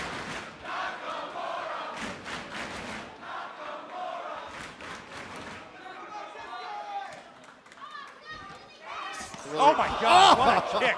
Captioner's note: fans chanting